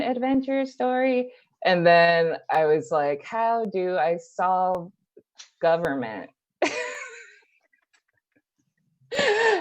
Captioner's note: laughter